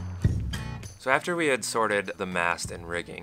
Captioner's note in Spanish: Narrating